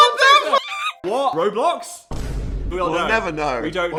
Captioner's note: shriek